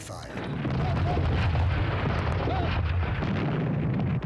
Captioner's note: explosions